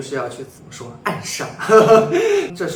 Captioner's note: laughter